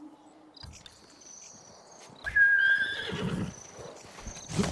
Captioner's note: whistling